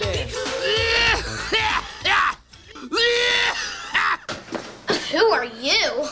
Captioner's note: coughing